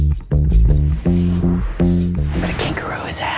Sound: whooshing sound

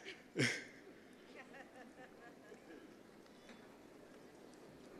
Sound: chuckling

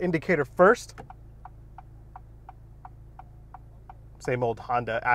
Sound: indicator clicking

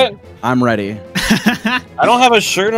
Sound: laughter

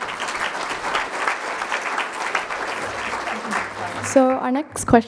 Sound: crowd applauding

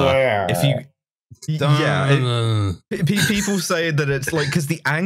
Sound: incoherent moan

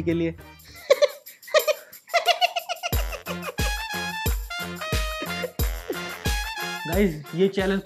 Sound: laughing

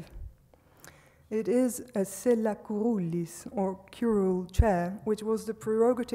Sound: speaks foreign language

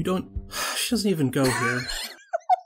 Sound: sigh; laughs

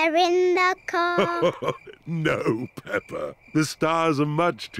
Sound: chuckles

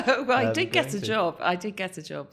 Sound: laughing

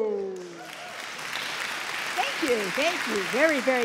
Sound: audience clapping

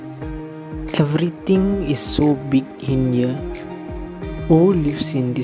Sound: whispering to himself

